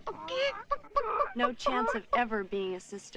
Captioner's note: Kitty imitating chicken